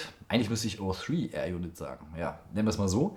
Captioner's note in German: Englisch accent